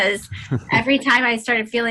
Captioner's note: laughter